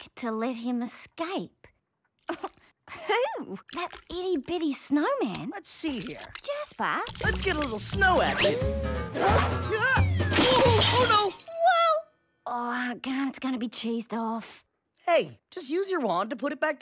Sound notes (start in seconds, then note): 10.1 crashing